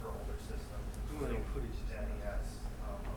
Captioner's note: speaking in foreign language